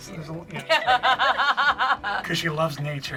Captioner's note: laughing